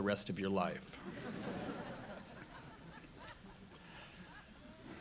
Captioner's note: audience laughing